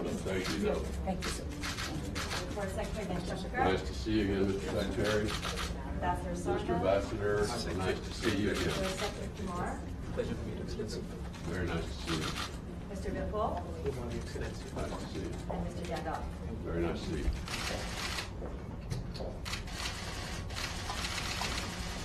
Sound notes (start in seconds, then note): 1.5 camera clicks; 19.4 camera clicks